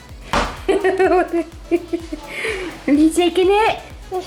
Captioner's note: laughing